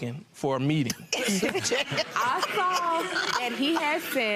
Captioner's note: laughter